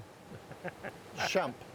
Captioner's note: chuckling